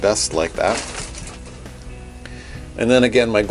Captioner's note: shower curtain crinkles